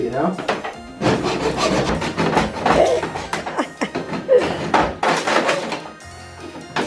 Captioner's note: sawing